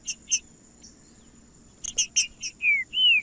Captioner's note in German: trinca ferro cantando